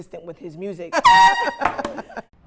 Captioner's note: laughing; horn blaring